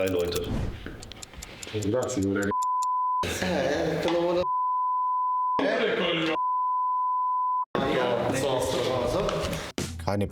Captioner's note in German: Italienisch; Beep